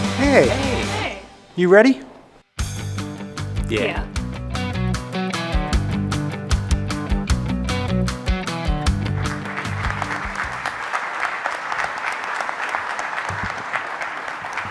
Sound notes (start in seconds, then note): 4.6 upbeat music; 8.9 audience applauding